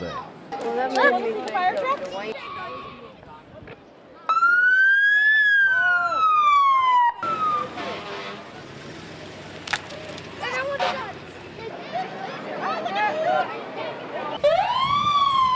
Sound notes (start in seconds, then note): 2.4 fire truck horn honking; 2.4 siren sounding; 8.3 engine whirring